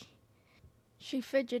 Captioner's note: deep breath